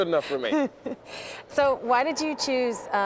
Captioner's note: chuckling